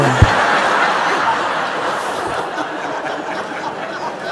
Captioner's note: laughter